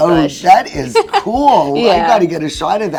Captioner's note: chuckles